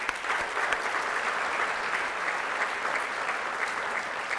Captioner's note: applause